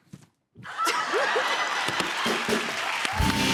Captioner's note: laughter